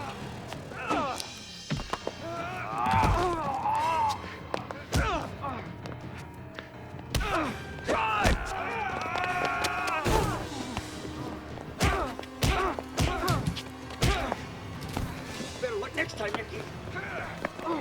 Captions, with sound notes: Drive! (both yell) Better luck next time, Nicky.